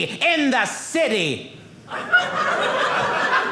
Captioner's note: audience laughing